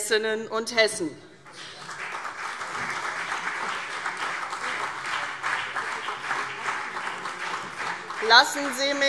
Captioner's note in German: Beifall CDU und BÜNDNIS 90/DIE GRÜNEN